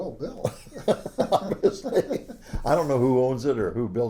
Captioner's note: laughs